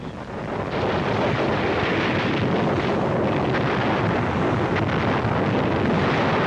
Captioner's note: artillery firing